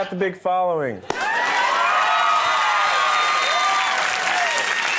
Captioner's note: audience cheering